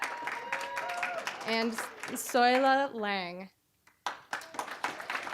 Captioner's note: applause, cheering; applause